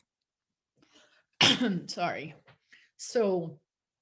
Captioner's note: coughs